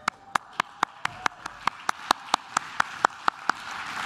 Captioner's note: claps